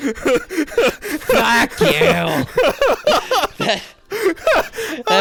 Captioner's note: laughing